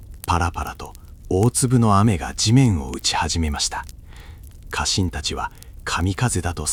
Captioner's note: pitter-patter